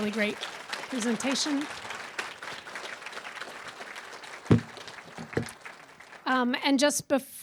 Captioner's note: applause